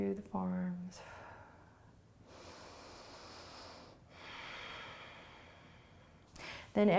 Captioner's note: inhaling and exhaling